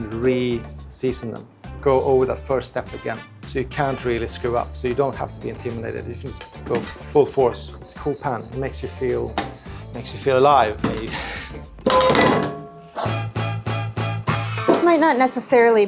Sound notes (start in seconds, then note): 11.8 pan banging; 13.1 upbeat music